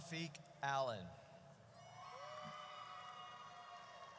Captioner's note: audience cheers